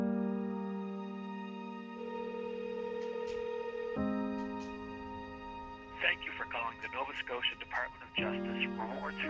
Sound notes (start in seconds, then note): 0.0 soft poignant music; 0.6 phone ringing